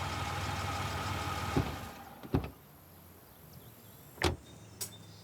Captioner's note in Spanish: Sonido de motor